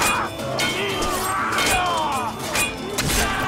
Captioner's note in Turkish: Haykırıyorlar